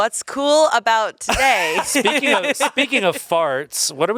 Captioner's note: laughs